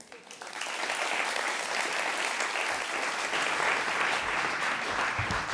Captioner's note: applause